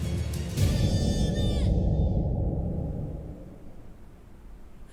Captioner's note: wind howling